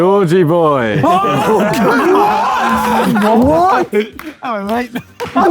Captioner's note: group cheers